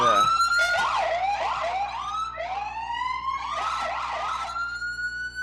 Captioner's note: sirens wailing